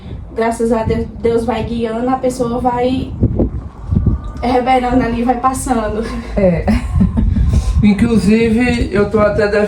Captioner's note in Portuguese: risadas